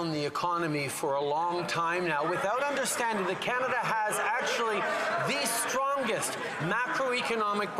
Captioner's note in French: voix de l'interprète